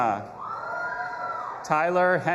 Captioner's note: audience applauding and cheering